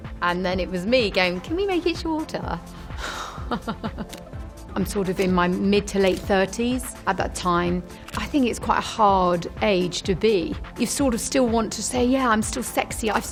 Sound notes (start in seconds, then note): 0.0 dynamic music; 3.2 laughing